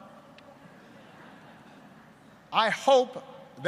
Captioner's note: laughter